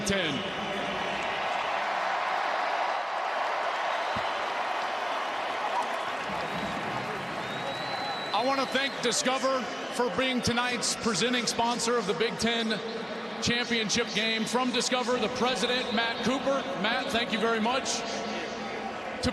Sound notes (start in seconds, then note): 8.1 cheers and applause